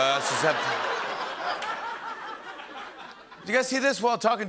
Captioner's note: laughter